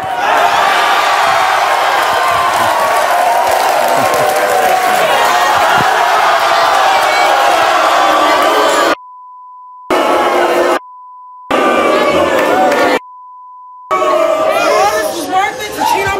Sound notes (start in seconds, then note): 0.0 audience cheering; 8.4 audience booing